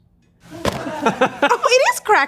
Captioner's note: laughs